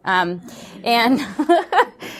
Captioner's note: laughs